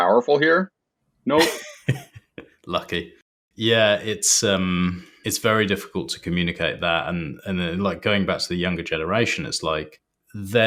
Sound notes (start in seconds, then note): 1.3 laughs